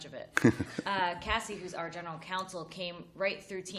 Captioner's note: laughter